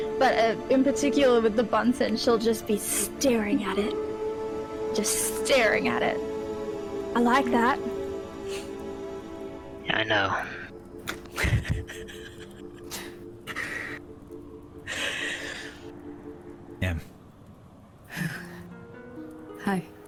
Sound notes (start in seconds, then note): 11.1 nervous laugh fills the void